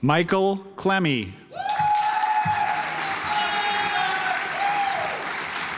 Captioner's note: audience applauds